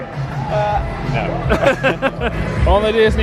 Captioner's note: laughs